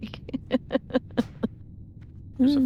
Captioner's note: laughing